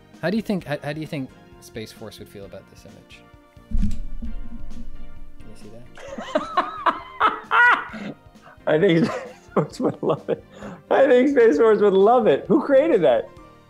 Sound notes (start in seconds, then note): 3.7 microphone jostling; 5.9 Ben laughs